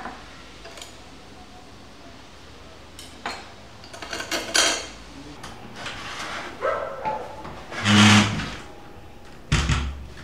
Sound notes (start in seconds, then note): 3.8 plates sound